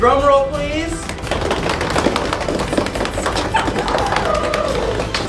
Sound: kids drum roll on table

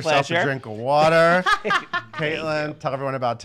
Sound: laughing

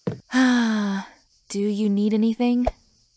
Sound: sighs

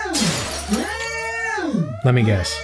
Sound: glass breaks

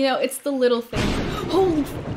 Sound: loud thunder sfx

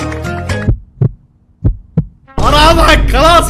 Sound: heart beats

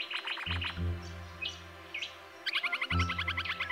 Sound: bird calls and music

